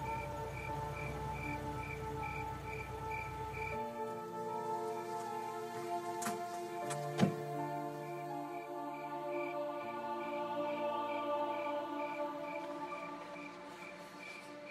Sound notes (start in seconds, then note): 6.9 car Door Closes